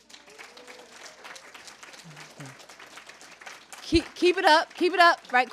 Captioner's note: cheering; applause